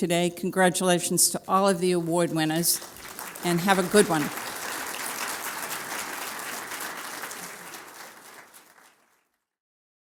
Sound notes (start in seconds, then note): 5.4 applause